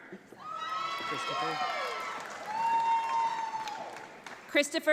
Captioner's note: audience applauds